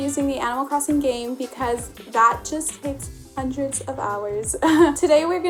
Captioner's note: laughs